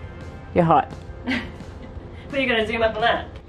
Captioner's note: laughs